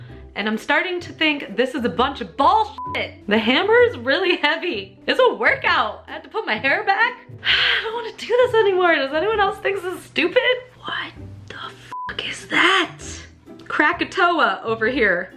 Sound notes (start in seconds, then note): 7.4 exhale; 10.6 whispers